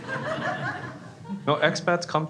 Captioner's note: crowd laughs